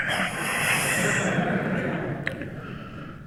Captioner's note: long exhale; laughter